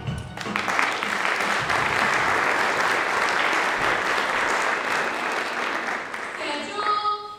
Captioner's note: applause